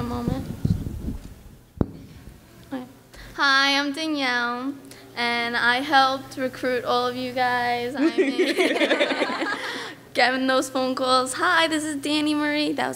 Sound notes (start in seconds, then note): 8.0 laughs